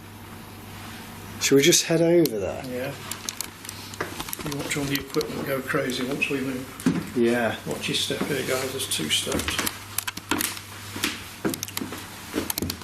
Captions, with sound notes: Should we just head over there? - Yeah and watch all the equipment go crazy once we move. - Yeah. - Watch your step here, guys, There's two steps. (shuffling) (footsteps)